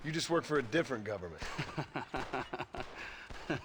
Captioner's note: laughs